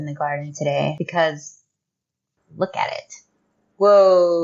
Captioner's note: quiet rage